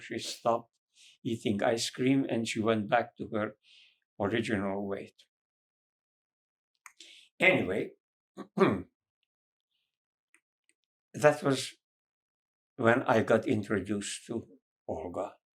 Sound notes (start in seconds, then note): 8.4 clears throat